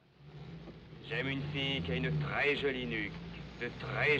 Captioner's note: speaking in French